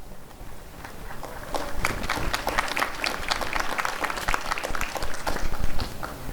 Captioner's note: applause